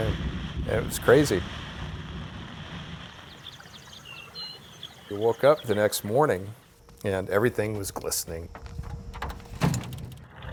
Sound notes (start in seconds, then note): 0.0 thunder rumbling; 3.7 rain splashing; 9.9 bag clunking